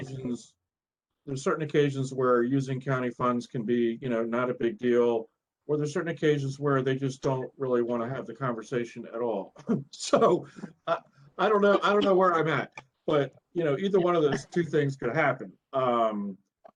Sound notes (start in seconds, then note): 9.5 laughter